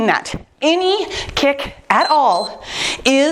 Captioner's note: timer beeps